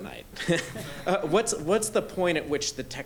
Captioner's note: crowd laughing